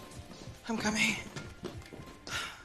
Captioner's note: sighs